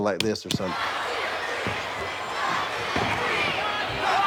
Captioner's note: crowd cheers